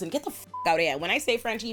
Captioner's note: beep